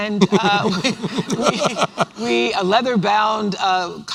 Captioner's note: laughs